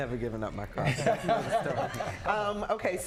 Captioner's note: laughs